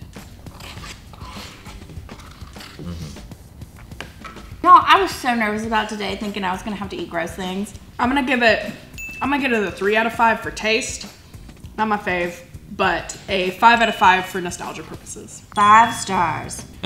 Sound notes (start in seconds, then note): 0.3 light music; 8.9 bell ringing